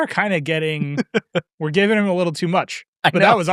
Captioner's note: laughing